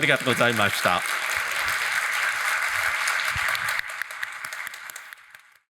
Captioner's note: audience applauding